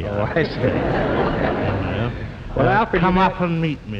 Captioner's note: audience laughs